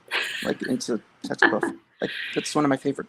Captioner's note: laughs